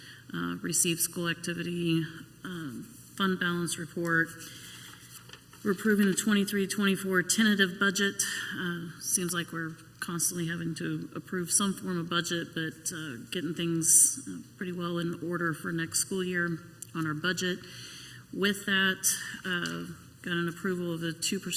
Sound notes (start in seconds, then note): none